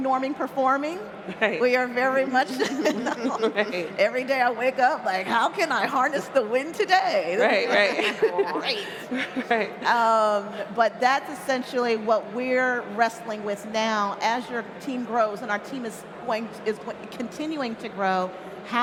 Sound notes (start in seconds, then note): 2.5 laughter; 7.5 laughs